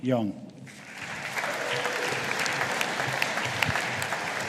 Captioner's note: audience applauding